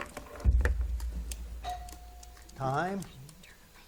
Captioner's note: bell rings